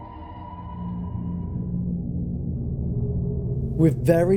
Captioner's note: low humming sounds